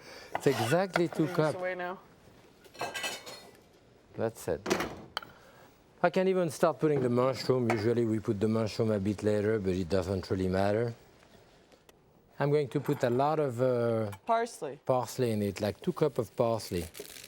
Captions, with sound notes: It's exactly two cups. - I'm putting this away now. (measuring cup clattering) - That's it. I can even start putting the mushroom. Usually we put the mushroom a bit later, but it doesn't really matter. I'm going to put a lot of. - Parsley. - Parsley in it, like two cup of parsley.